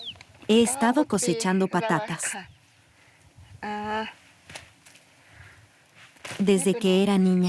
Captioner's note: villager speaking in foreign language